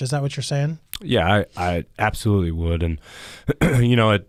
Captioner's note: clears throat